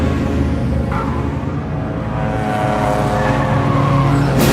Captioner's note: Ferrari roaring